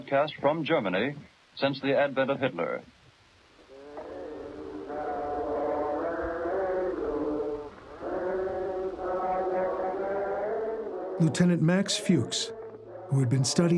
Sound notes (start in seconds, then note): 3.7 men chant religious cantations; 10.7 voiceover